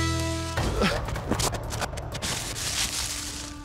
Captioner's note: grunts, thuds